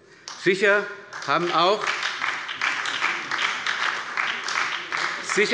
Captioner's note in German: Beifall bei der SPD